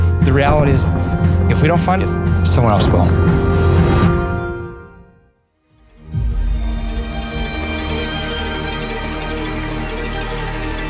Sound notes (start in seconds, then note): 3.3 thunder rumbling; 4.2 music stops abruptly; 5.9 pulsing symphonic music begins